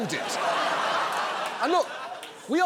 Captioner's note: audience laughing